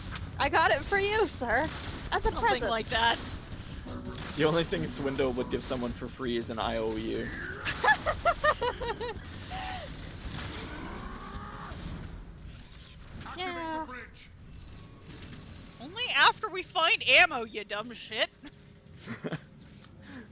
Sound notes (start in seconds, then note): 7.3 laughs; 19.0 laughs